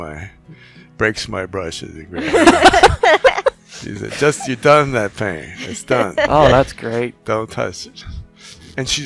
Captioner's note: laughing